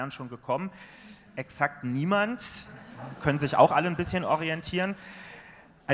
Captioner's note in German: Gelächter aus dem Publikum